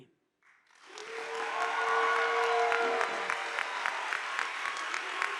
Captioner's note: audience applauding